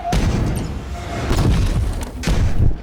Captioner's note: banging